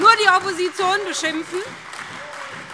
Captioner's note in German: Beifall SPD, AfD, Freie Demokraten und vereinzelt DIE LINKE